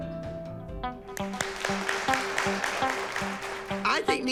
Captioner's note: applause